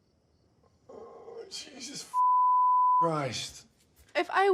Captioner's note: beep